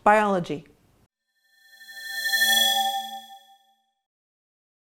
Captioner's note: swoosh